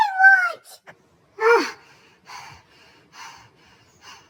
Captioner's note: panting